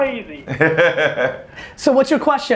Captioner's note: laughs